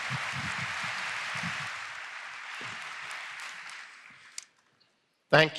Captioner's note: applause